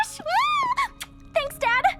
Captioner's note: Elda squeals